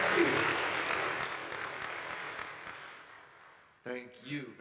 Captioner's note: audience applauding